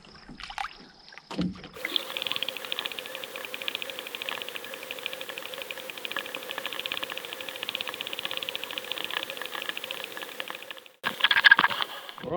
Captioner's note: fish splashing; underwater gurgling